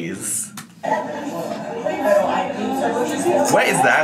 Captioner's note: people chattering